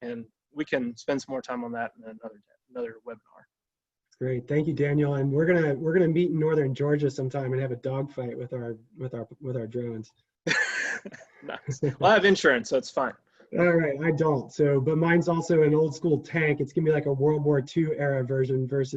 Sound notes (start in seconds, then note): 10.5 laughs